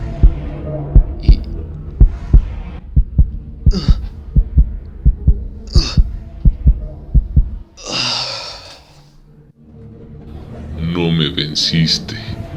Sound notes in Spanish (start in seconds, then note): 3.6 quejidos; 3.7 latidos fuertes; 7.8 suspiro final